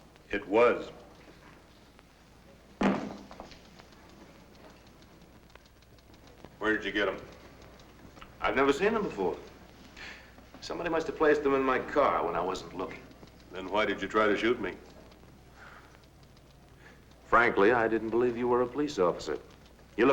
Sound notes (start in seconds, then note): 2.8 gun thuds